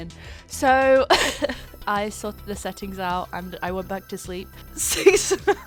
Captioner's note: laughs; laughing, unintelligible